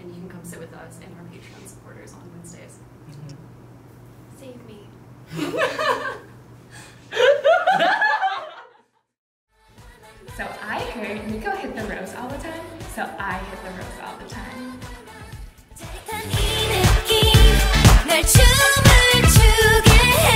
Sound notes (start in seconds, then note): 4.1 quietly; 5.1 all laughing